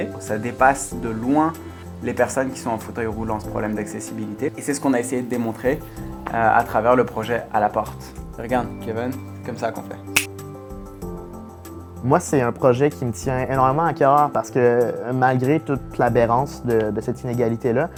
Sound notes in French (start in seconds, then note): 10.1 Claquement